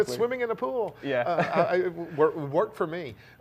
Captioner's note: laughs